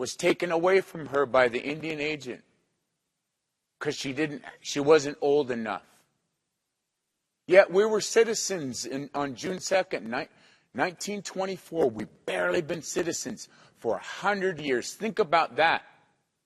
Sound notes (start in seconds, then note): none